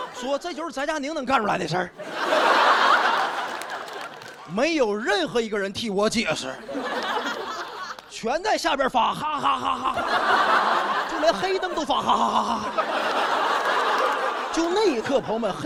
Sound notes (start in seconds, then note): 9.2 laughing